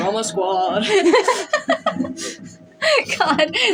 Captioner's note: laugh; laughing; chuckle